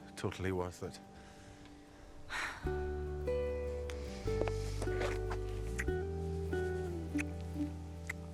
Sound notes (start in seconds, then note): 2.2 Kate sighs; 3.6 gentle music